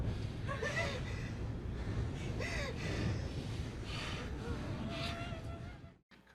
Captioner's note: sounds of people panicking